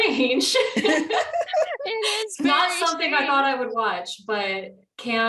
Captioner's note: laughter